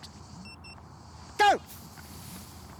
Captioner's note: watch beeps